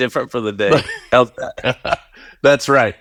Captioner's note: laughs